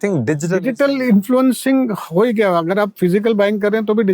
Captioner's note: speaking in Hindi